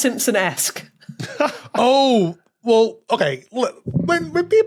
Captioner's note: laughs breathily